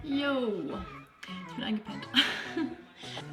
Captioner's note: laughs